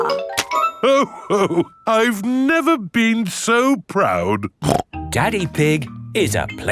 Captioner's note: snorts